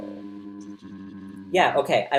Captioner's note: pitch down